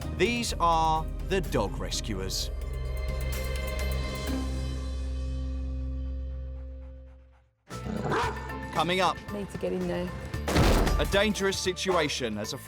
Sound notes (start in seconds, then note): 8.0 dog barking; 8.2 upbeat music; 10.4 door breaking